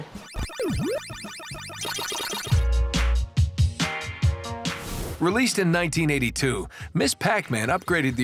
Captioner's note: arcade sounds